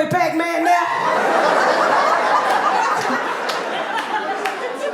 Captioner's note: audience laughing